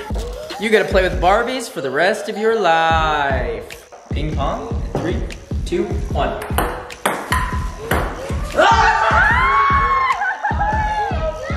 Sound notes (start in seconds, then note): 6.4 ball tapping; 8.7 all yelling